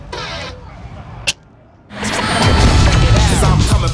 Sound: neuralyzer clicks

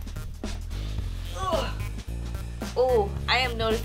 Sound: grunts

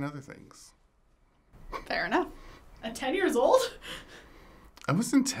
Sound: chuckles

